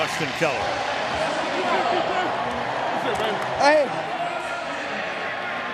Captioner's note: announcer on pa